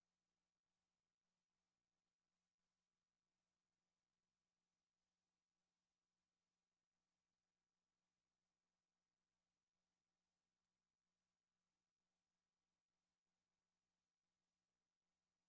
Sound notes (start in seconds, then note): none